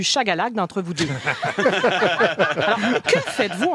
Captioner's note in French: rires